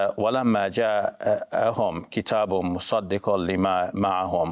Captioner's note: speaking Arabic